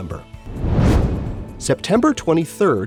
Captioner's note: whoosh